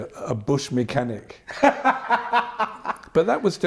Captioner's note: laughter